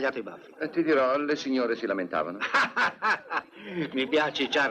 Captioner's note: laughing